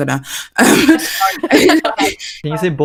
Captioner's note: laughs